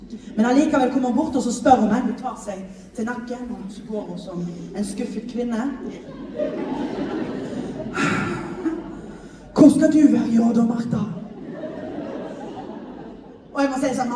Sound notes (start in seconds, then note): 7.9 sighs